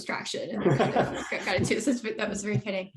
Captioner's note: laughs